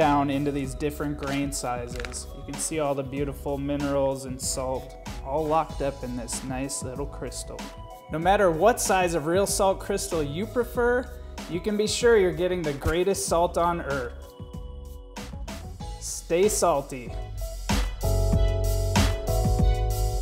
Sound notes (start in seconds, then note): 12.6 thud; 17.5 casual urban music